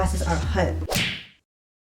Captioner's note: slap noise sound effect